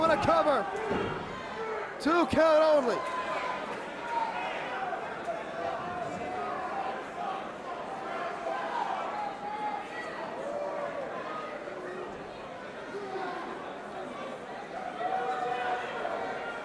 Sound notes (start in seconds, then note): 4.4 crowd chatter